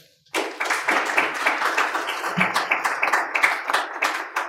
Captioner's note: audience clapping